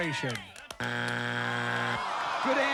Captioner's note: buzzer